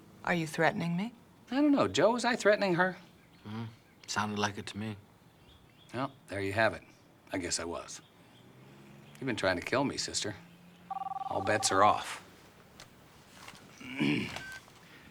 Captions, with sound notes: Are you threatening me? I don't know. Joe, was I threatening her? Mm-hmm, sounded like it to me. Well, there you have it. I guess I was. You've been trying to kill me, sister. (phone ringing) All bets are off. (clears throat)